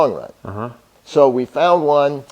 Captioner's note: murmurs agreement